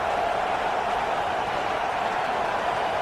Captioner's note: crowd Noises